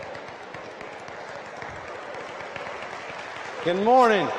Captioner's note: applause